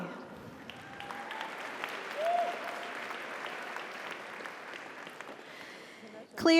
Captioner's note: audience applauds; audience cheers